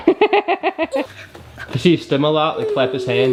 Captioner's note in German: Frankie-Mutter lacht